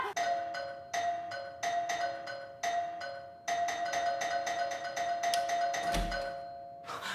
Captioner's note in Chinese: 門鈴聲